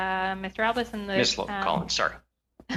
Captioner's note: speaking French